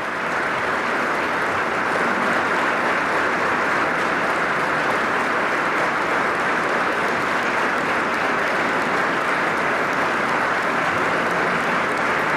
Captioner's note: applause